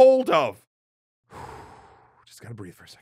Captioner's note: exhales